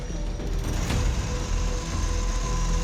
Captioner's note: whirring; grinding